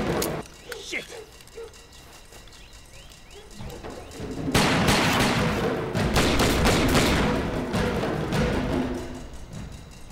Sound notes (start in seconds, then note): 4.5 gun fire